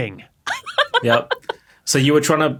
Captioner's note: laughs hysterically